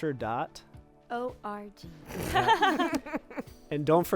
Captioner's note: group laughing